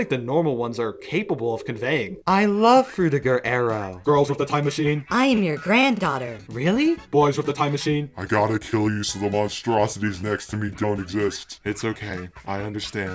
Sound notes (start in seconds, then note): none